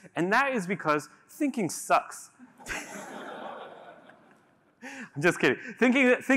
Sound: laughter

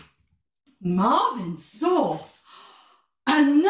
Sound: gasp

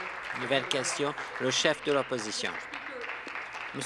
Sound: applause

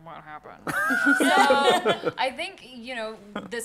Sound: laughter

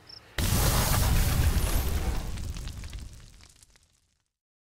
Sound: logo cracking

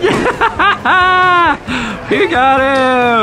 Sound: laughs

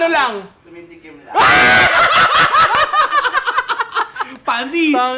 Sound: laughter

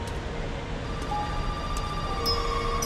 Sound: soft music starts; phone ringing; hammer sounds

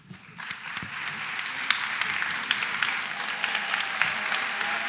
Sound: cheering and applause

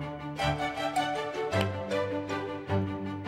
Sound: taps hands

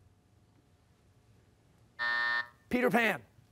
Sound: buzzer

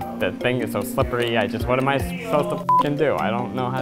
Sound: beep

